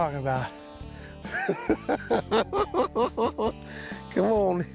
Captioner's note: cackles